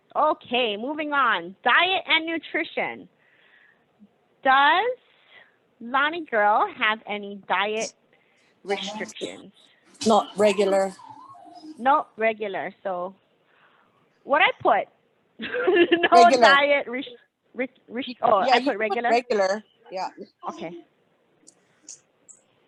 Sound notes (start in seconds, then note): 15.7 laughing